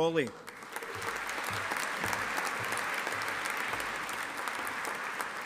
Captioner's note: audience applauding